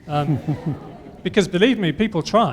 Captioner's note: laughter